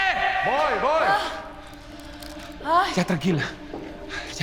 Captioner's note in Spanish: Quejidos